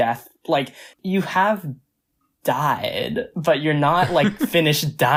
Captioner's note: laughs